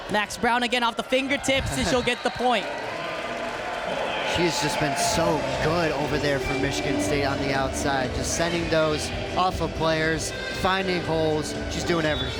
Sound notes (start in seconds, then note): 2.7 crowd cheering